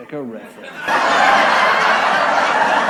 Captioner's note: canned laughter